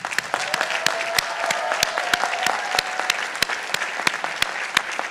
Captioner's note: participants applauding